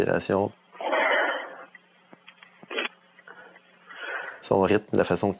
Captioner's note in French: respiration bruyante